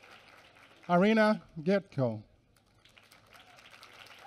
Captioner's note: applause